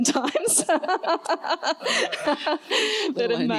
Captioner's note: laughter